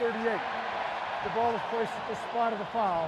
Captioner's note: cheering